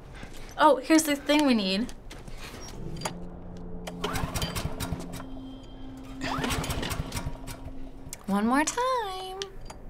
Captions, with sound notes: - Oh, here's the thing we need. (generator sputters) (generator sputters) - One more time.